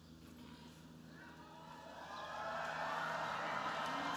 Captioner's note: cheering